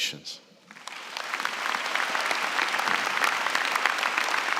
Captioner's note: applause